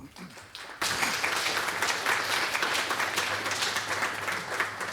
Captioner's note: applause